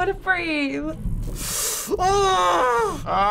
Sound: sucks air, groans deeply

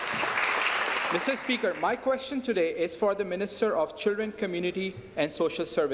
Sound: applause

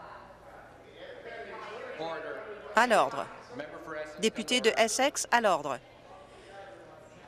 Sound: conversation din

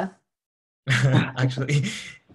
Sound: laughs

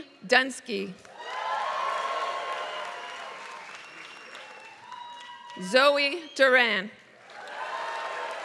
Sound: applause; applause

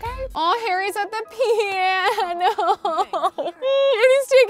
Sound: sobbing

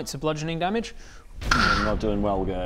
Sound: kssschchh

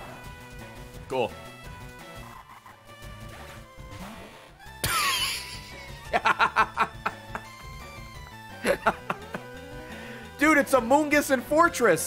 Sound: laughs

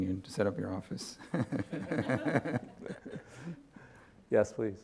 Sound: audience laughing

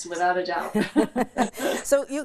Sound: laughs

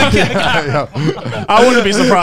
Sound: everyone laughs

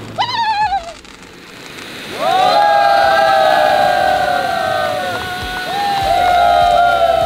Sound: shouting with joy; flashy Crackling sound; shouting with joy

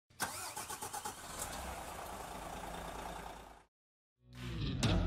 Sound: engine turning over

